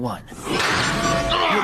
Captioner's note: glass breaking